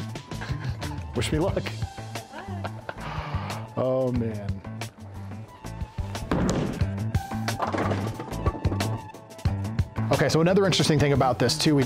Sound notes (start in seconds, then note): 0.2 chuckling; 5.6 funk music continues; 7.2 pins toppling